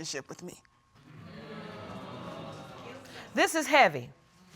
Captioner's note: audience exclaims